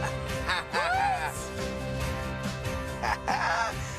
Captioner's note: person laughing